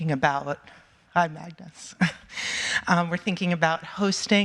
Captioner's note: chuckling